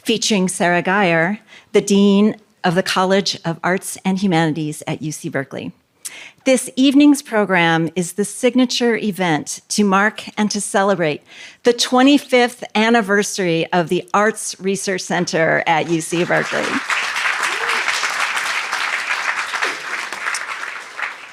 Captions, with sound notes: featuring Sara Guyer, the Dean of the College of Arts and Humanities at UC Berkeley. This evening's program is the signature event to mark and to celebrate the 25th anniversary of the Arts Research Center at UC Berkeley. [APPLAUSE]